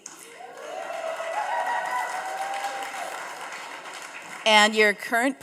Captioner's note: audience cheering and applauding